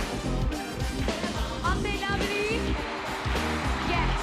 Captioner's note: cheering